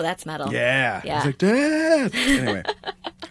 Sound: laughter

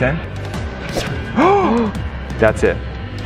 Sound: gasping

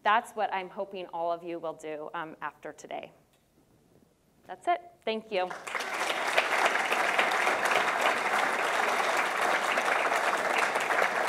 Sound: audience claps

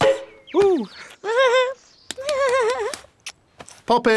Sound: giggles

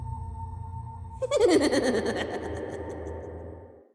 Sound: man laughing wickedly

